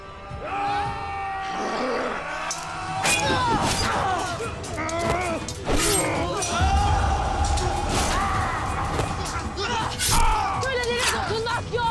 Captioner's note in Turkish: Saldırma Sesi